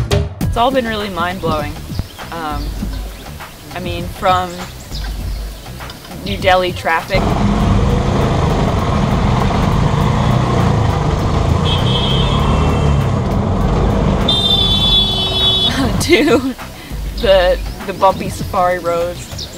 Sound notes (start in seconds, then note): 7.0 traffic noise